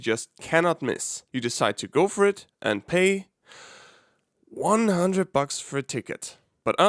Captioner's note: inhales